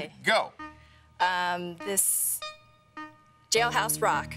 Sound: timer beeping

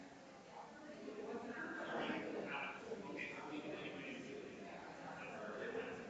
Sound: people chattering distantly continues

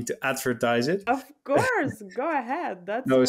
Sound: chuckles

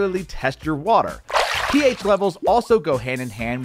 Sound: water burbles

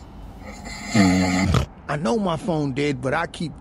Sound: snores; grunts

